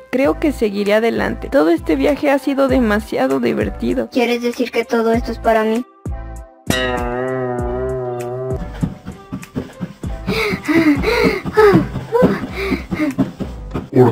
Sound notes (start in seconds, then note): 6.6 boing; 8.6 treadmill sound